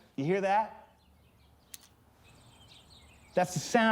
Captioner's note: birds chirping